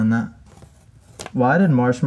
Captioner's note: sticker rips